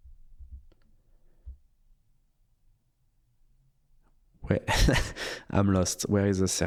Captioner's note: silence